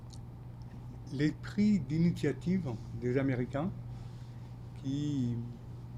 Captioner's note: speaking French